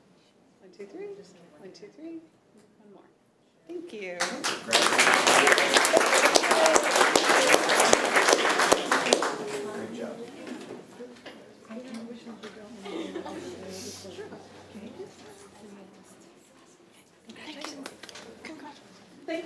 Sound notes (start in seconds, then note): 4.2 room applauds